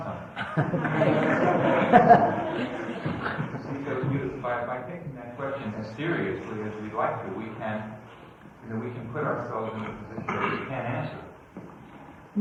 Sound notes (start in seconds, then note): 0.3 laughter; 3.1 laughs